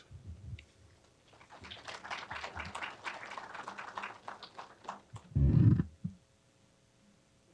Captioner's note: applause